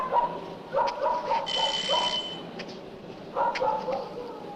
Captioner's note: doorbell rings